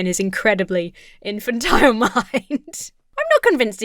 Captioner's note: laughs